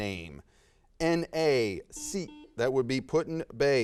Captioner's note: buzzer sounds